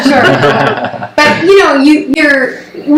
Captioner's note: laughs